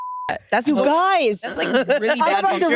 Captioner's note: beep